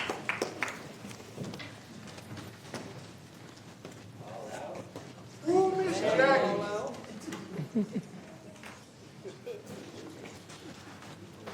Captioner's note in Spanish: aplausos